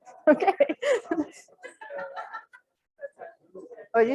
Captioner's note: laughter